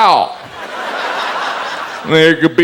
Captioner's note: audience laughs